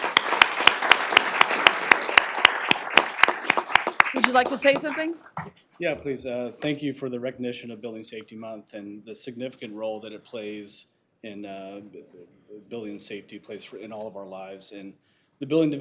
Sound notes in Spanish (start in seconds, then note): 2.1 aplausos